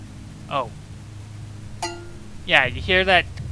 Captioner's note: clank